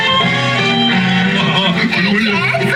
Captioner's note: shy Chuckles